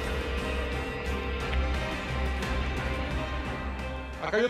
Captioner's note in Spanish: La otra línea timbra